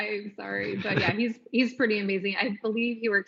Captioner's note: laughs